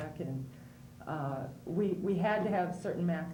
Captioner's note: none